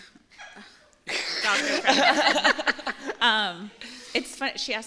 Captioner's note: laughter